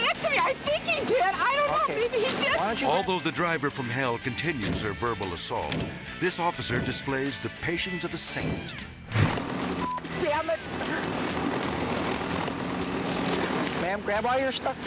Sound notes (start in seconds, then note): 5.6 driver's hand pounding; 9.0 transition whooshes